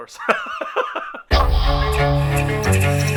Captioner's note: laughs; dramatic strings music